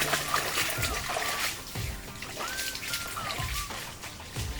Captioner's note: water splashing